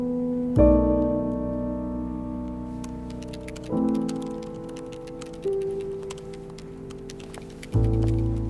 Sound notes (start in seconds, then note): 2.8 typing